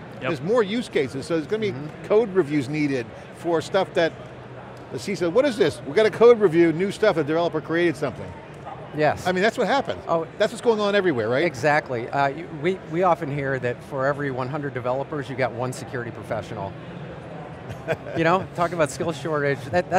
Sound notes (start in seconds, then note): 17.7 laughs